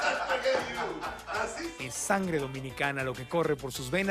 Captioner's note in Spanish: ambos ríen